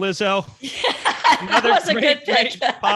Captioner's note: laughing